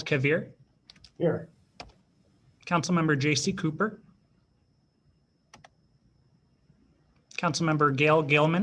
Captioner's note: silence